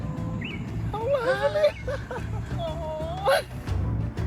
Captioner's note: laughter